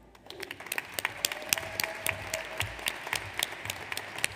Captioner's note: audience applauds